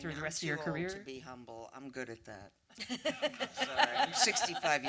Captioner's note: laughter